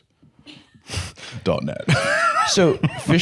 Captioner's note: laughs